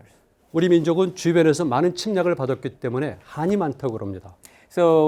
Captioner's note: speaking in Korean